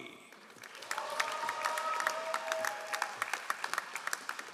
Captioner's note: all applauding